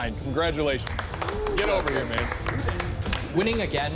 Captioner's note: applause